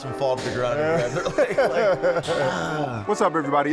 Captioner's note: laughing